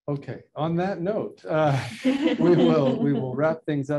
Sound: laughing

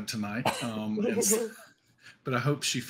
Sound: chuckles

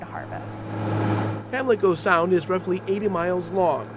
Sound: boat motor revving

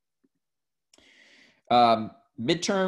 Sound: takes a deep breadth

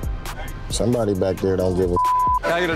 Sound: beep

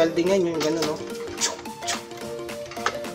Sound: imitating sound

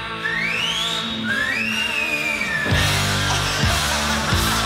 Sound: whistles; band laughter

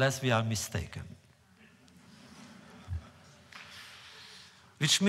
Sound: laughter

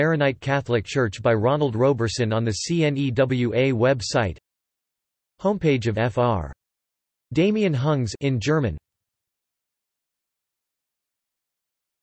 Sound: in German

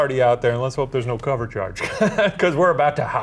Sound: laughs

